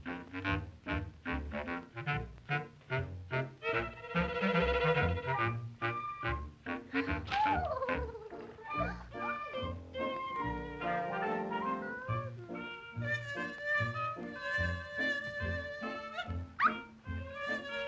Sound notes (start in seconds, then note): 6.7 paper Ripping; 13.0 buzzing